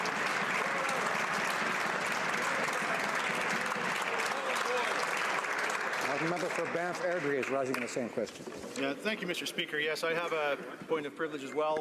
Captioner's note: applause